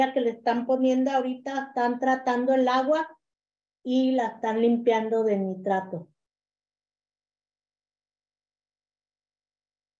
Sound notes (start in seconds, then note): 1.6 continues speaking in Spanish